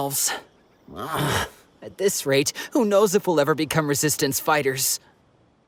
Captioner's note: sigh